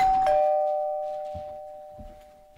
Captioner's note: door bell